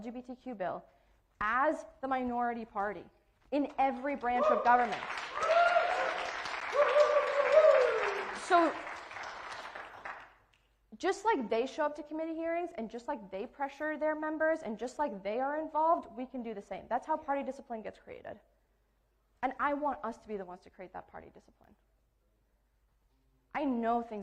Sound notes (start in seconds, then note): 8.1 cheering and applauding